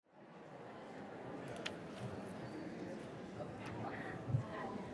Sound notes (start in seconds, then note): 0.1 audience chattering